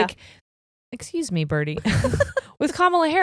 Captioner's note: both laughing